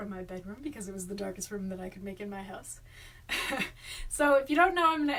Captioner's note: laughs